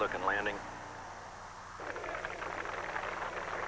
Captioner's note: applause